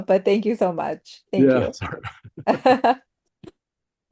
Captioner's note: chuckles